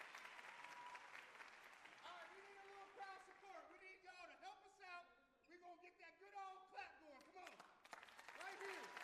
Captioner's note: cheers and applause